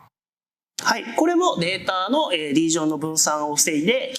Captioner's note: speaking japanese